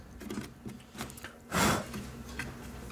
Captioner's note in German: Sie pustet